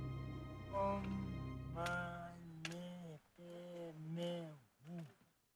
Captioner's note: speaks in a foreign language